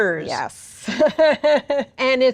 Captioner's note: laughs